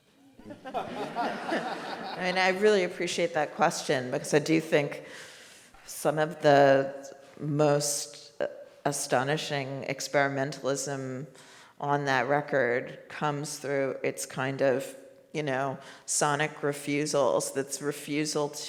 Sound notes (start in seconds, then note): 0.4 all laugh